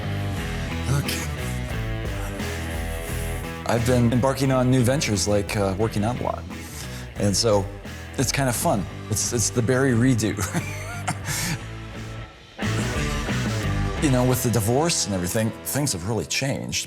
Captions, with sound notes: OK. I've been embarking on new ventures, like working out a lot. And so it's kind of fun. It's the Barry redo. [CHUCKLES] You know, with the divorce and everything, things have really changed.